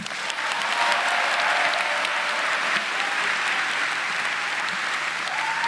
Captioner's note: audience cheering and applauding